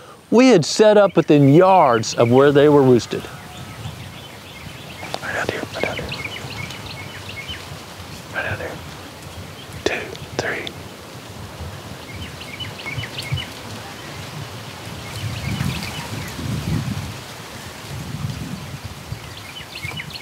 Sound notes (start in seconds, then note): 5.4 whispering